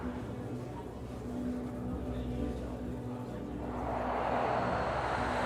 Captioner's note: distant chattering; airplane whooshing